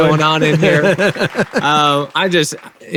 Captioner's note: laughs